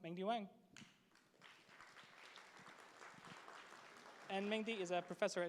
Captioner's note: applause